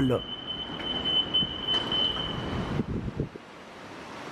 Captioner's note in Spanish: sonido de apertura de puertas